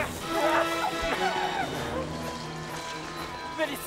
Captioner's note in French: en hurlant